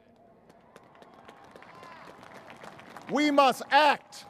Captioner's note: applause